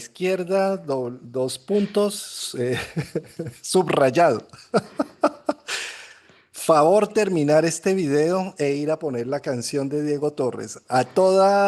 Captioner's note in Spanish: risas